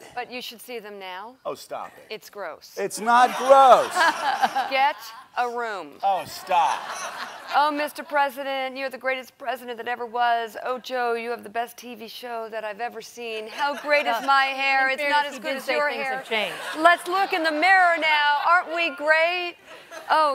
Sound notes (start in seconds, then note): 3.1 laughter